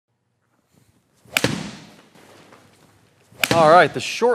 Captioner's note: logo whooshing; golf ball thudding